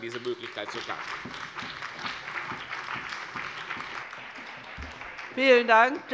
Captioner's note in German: Beifall bei der CDU und dem BÜNDNIS 90/DIE GRÜNEN